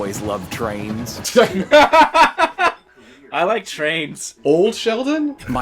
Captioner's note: laughs